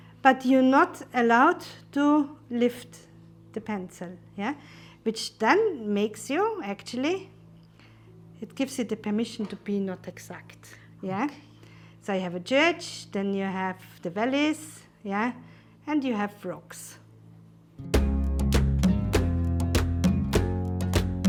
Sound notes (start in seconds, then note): 10.4 whispers; 17.8 upbeat uplifting music